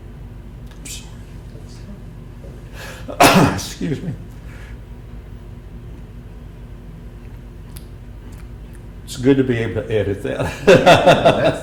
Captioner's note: tearful; laughter